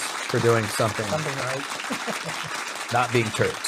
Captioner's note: audience applauding; laughing